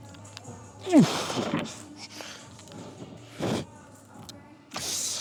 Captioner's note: grunts